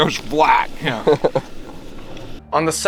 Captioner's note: laughs